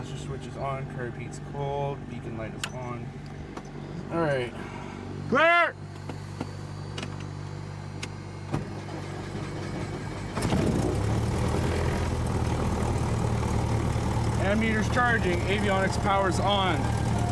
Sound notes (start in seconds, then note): 5.8 engine rumbles on